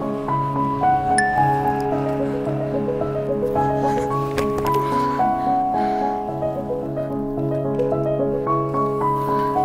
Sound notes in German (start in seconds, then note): 1.2 Helles Klingeln; 3.5 Ächzen